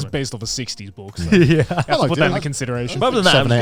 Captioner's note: chuckling